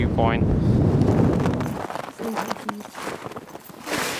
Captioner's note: wind rushing